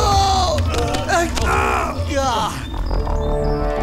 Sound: grunts

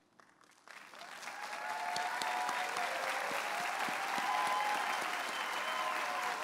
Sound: audience applauding and cheering

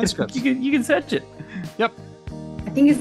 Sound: laughs

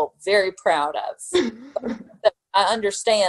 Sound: laughing

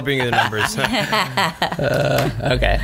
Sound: laughs

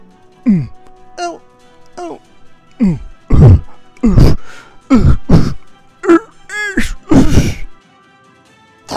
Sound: clears throat

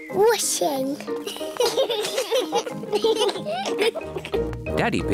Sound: children giggling

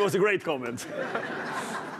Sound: chuckles

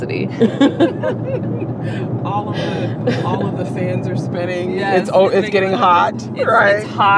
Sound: laughs

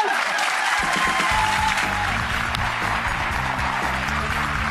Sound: audience applause

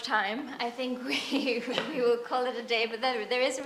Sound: chuckles

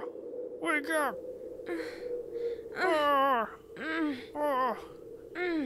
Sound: mumbles, groans

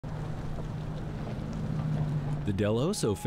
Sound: sound of gravel crunching as cars drive

